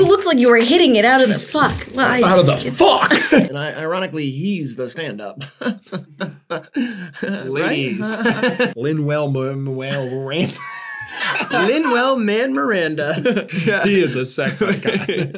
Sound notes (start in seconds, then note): 5.2 chortles; 9.9 laughing